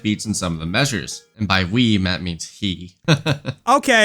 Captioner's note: laughs